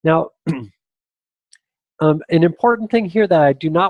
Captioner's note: clears throat